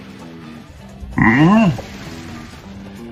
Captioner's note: Dromp grunts; Dromp yells; Komasan yells